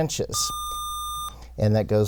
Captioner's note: buzzer